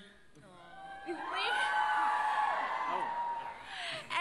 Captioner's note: crowd cheers